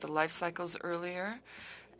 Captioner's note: speaking french